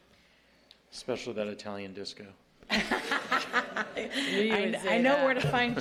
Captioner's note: laughter